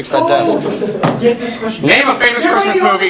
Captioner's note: elevated talking